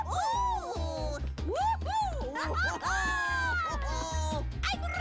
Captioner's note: laughing and Cheering